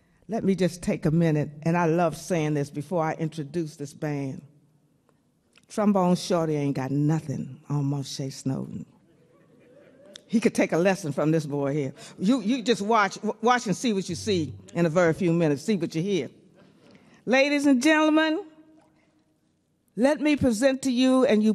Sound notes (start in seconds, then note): 9.0 man hoots; 9.3 man chuckles